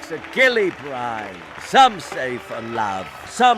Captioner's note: audience applauding